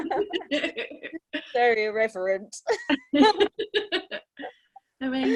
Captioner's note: laughter; laughter